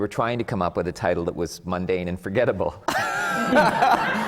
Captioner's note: laughter